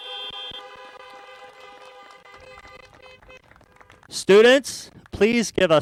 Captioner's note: applause